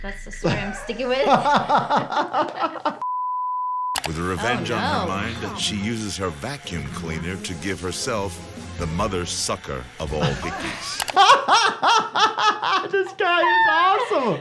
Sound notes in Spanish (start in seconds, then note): 0.4 riendo; 10.0 ambos riendo